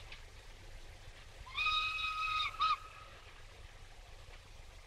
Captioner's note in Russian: свист поезда